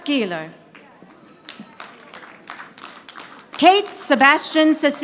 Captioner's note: audience applauding